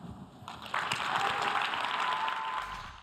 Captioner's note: audience applause